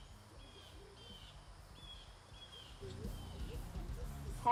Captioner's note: birds chirping